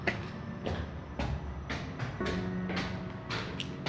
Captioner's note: stairs clicking